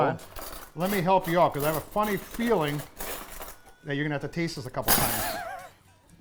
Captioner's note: laughing